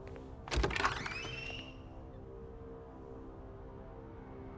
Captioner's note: tense music continues; door creaking